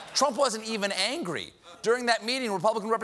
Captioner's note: laughter